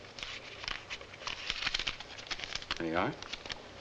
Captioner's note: bills rustling